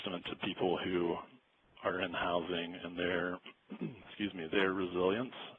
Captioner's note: clears throat